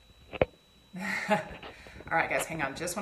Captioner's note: laughing